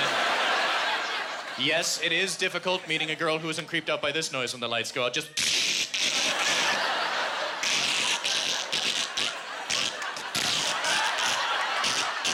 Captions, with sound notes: you know what I'm saying?" Yes, it is difficult meeting a girl who isn't creeped out by this noise when the lights go out. (Imitating duct tape ripping)